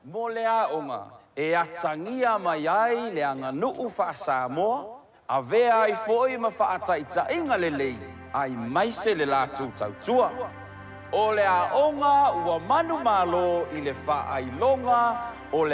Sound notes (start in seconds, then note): none